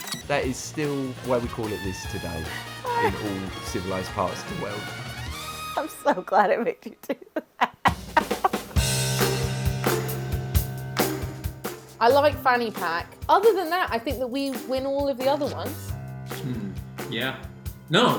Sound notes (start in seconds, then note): 0.0 fast-forward chirps; 2.8 laughs; 5.8 laughs; 7.8 upbeat music